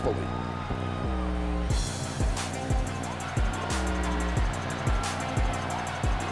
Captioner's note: crowd cheers; techno music plays